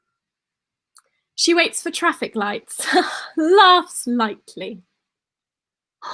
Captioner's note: laugh